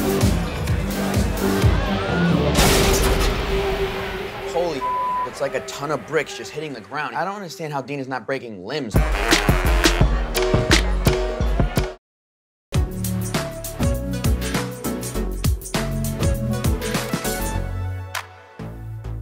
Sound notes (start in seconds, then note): 2.5 crashing; 3.0 dramatic music; 8.9 funky music